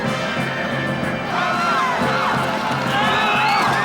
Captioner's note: shouting; Lex yelling